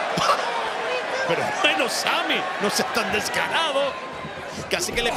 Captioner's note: laugh